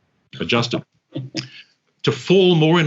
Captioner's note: chuckles